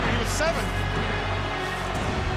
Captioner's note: crowd cheering